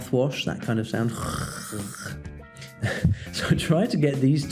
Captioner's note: gurgle sound with Jota